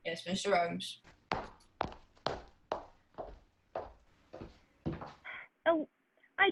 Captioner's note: footsteps